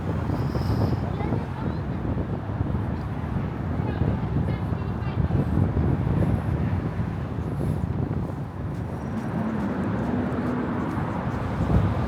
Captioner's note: people chattering